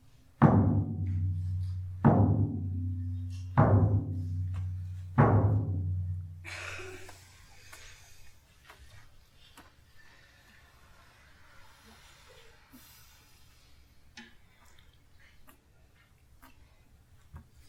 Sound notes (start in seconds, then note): 0.4 4 Drum beats; 8.2 collective Breath